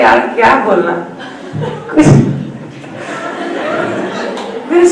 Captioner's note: everyone laughs